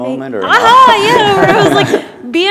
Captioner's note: laughter